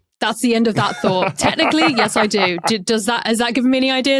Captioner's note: laughs